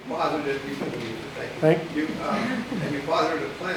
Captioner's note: quiet talking